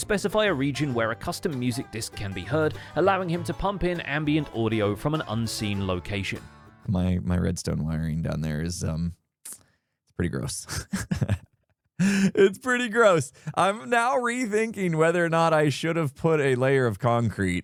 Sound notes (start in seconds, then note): 10.7 laughs